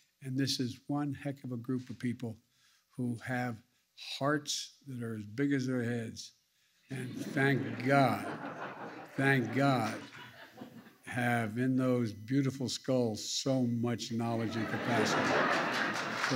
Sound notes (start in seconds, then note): 6.9 laughter; 14.4 laughter and applause